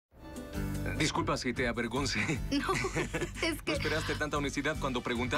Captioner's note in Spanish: Risas